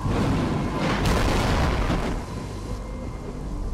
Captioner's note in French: Tonnerre